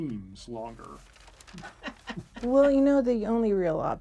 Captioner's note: laughing